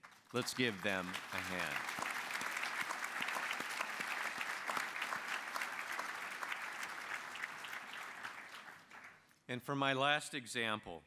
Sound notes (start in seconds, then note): 2.8 applause